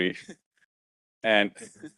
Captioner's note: laughing